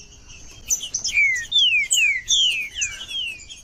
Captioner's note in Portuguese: trinca ferro cantando